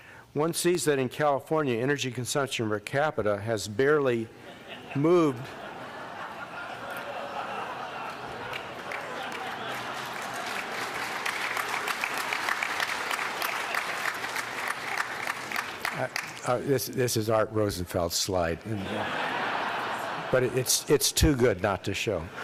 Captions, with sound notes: One sees that in California. Energy consumption per capita has barely moved. [LAUGHTER] This is Art Rosenfeld's slide, [LAUGHTER] but it's too good not to show.